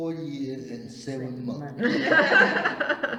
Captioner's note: all laugh